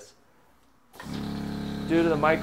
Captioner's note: engine humming